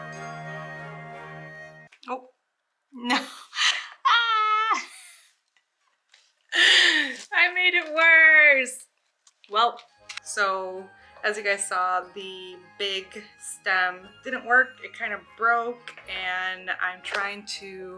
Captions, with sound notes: Oh! No! *screams* I made it worse! Well... So as you guys saw, the big stem didn't work. It kind of broke and I'm trying to